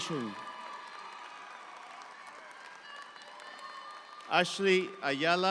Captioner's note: audience applauds; audience applause continues